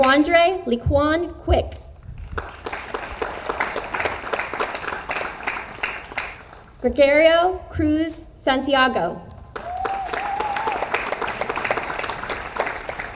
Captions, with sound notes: Dequandra Leeqwan Quick. (audience applauds) Gregorio Cruz Santiago. (audience applauds)